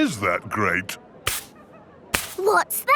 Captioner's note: brushing